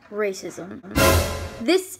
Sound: scary movie sound

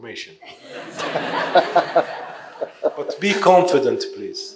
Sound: audience laughing

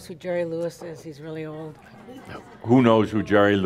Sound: a few chuckles

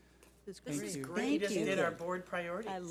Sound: chattering

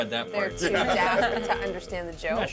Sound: speaker laughs

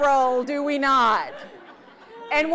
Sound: audience laughs

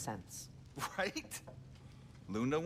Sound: laughing

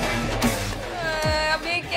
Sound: crying

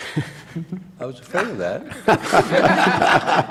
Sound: laughter

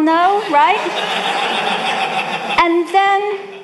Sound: audience laughing

